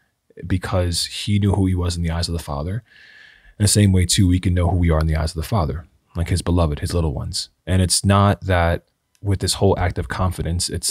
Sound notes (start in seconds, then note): none